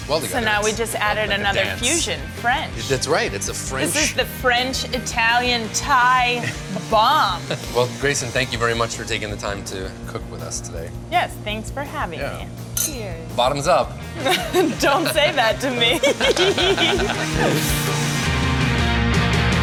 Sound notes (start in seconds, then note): 14.2 laughter; 17.0 lively music